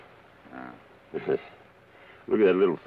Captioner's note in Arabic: يضحك كارني